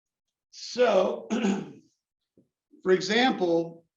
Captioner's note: cough